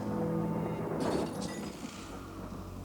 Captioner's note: glass shatters